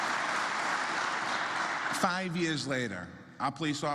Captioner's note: applause